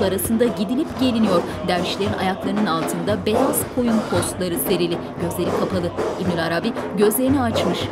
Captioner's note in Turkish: Dua sesleri